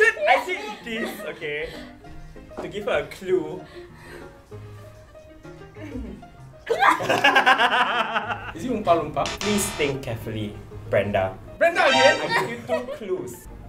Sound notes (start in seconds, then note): 6.6 laughter